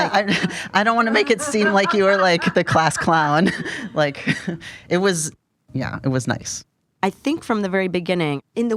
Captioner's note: laughter